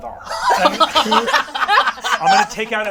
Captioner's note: all laugh